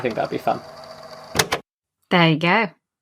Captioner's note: tape recorder clicks off